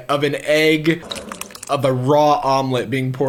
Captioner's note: egg sloshing